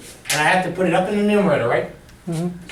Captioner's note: voiceover